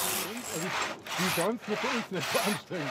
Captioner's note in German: Leise Gesprächsfetzen